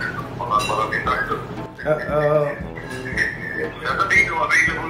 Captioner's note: laughing